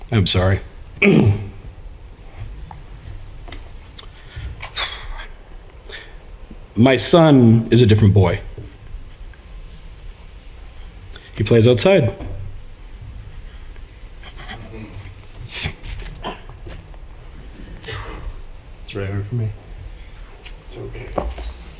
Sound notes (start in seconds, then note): 4.7 clears throat